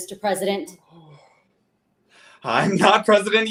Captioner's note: Quentin sighs